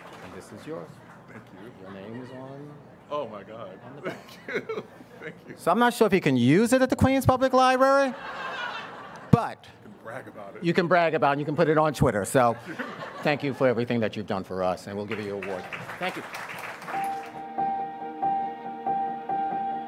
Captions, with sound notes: And this is yours. - Thank you. - Your name is on it. - Oh my God. (laughs) Thank you. Thank you. - So I'm not sure if you can use it at the Queens Public Library, (audience laughs) but- - You can brag about it. - You can brag about, and you can put it on Twitter. So thank you for everything that you've done for us. And we'll give you your award. (audience applauds) Thank you. (gentle music)